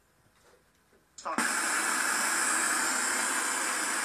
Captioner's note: static resumes